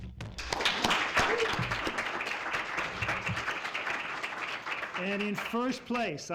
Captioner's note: applause